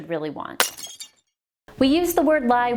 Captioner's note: glass shatters